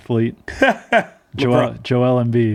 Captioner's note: laughing